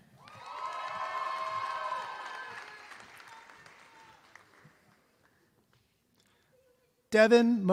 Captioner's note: applause